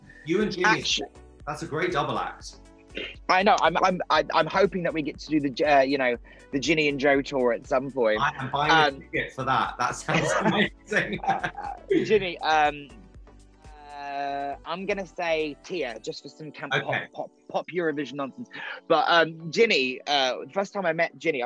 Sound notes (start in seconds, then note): 10.8 laughing